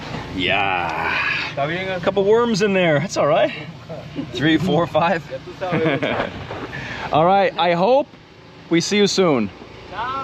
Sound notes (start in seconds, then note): 5.6 laughs